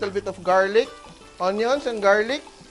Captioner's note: sizzle